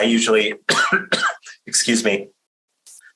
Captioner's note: coughing